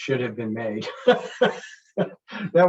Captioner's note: chuckles